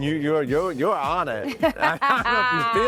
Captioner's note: laughs